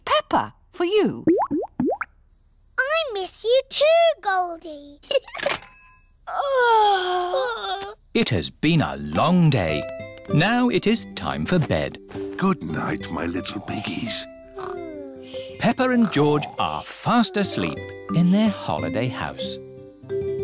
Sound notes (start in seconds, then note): 1.2 bubbling; 5.0 giggles; 6.3 both yawn